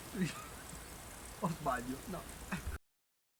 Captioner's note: laughter